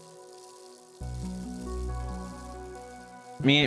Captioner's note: bike chain clicking